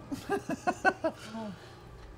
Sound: laughing

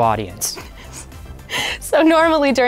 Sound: laughing

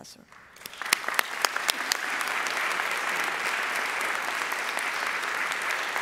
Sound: audience applauding

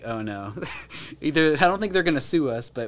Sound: chuckles

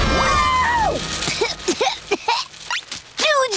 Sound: coughing

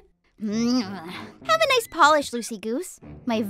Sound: grumbling

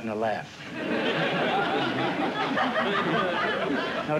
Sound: laughter

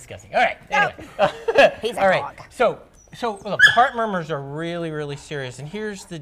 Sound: laughter

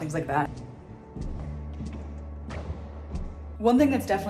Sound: steps thudding

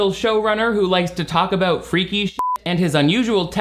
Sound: beeps

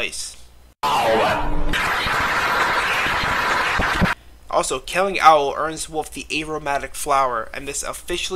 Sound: intense clapping

